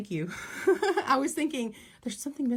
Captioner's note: laugh